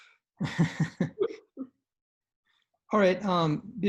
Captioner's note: chuckles